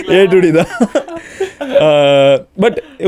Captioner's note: group laughs